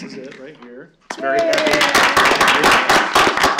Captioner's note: applause